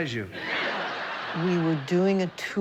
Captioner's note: audience laughing